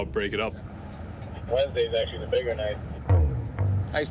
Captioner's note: man on radio